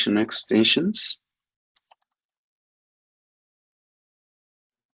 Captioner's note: keyboard clicking